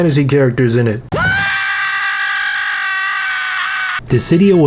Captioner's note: Squidward screaming